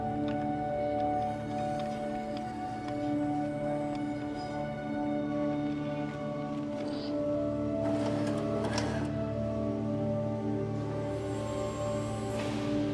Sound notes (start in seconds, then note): 5.8 machines shuffling